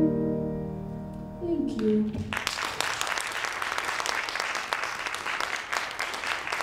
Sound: audience applauding

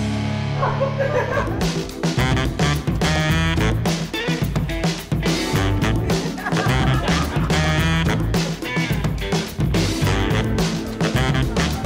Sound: laughter

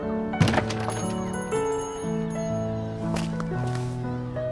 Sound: bell dings

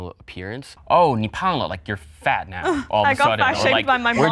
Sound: speaks foreign language

